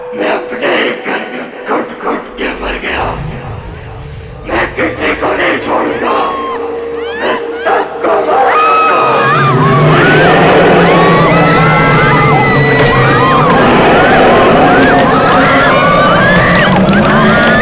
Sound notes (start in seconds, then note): 9.3 screams